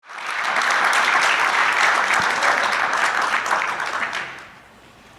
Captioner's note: audience applauding